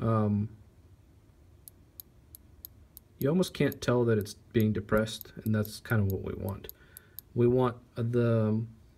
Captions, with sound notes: (click click click click) You almost can't tell that it's being depressed, and that's kind of what we want. We want the...